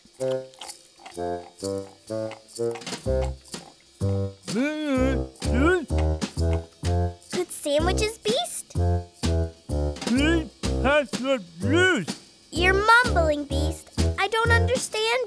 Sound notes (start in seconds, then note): 4.4 mumbling with mouth full